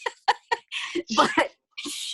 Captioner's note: laughing; hushing